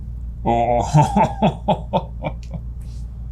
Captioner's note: laughs